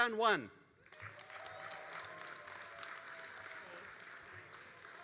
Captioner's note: all applauding